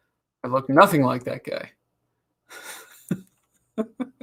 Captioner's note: laughs